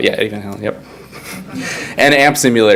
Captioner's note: all laugh